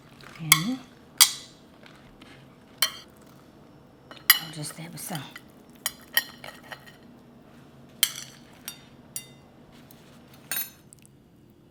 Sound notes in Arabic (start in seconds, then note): 0.6 صوت عيدان على أطباق; 5.8 صوت عيدان على أطباق